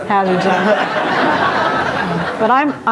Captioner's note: audience laughs